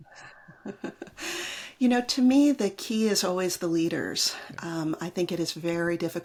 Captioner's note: laughs